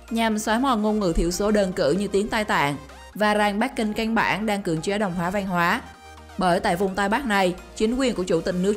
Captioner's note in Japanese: 普通話